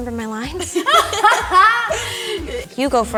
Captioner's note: all laughing